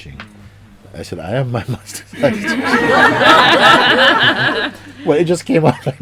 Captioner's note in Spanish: Risas